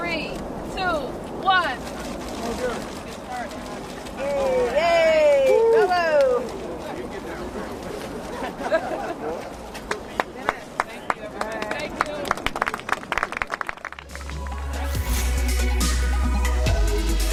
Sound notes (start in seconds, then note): 6.2 applause